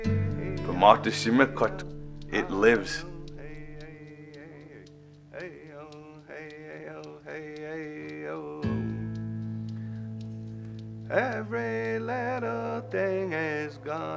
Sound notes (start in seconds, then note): 0.1 speaks Menominee; 2.2 chants